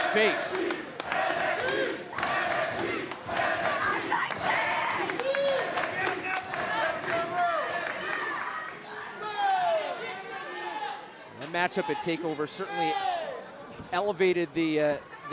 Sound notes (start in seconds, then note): 0.0 fans chanting